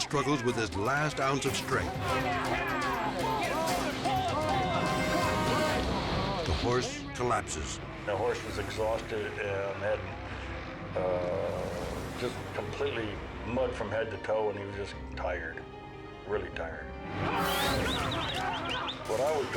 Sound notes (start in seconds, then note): 1.9 group shouting; 6.3 dramatic music; 17.3 dramatic music